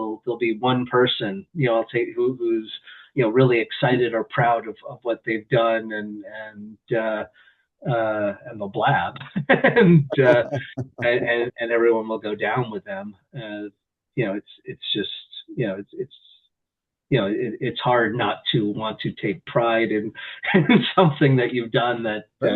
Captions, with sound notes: There'll be one person who's really excited or proud of what they've done, and they'll blab, [laughter] and everyone will go down with them. It's hard not to want to take pride in something that you've done that